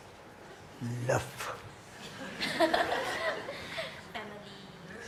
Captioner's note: audience chuckles